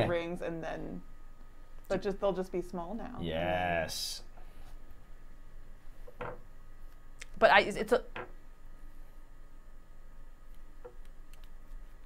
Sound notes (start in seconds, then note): 7.4 stammering